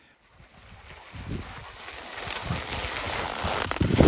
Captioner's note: snow crunching